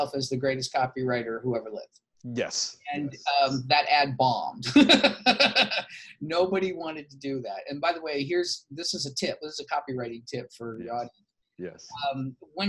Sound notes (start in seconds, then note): 4.7 laughs